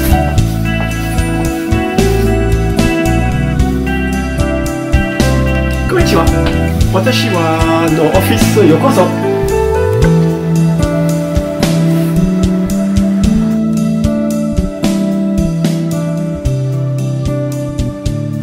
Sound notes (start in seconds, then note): 10.7 japanese